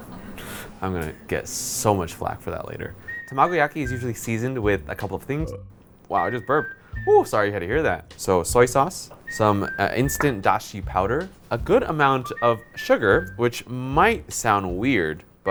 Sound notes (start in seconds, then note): 0.0 gasps; 5.5 burps